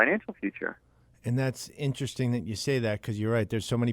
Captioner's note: voiceover